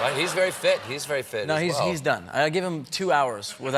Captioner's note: laughter